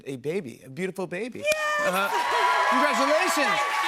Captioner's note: cheers and applause